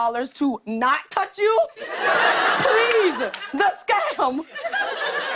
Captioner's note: laughter